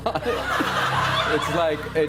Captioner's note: laughter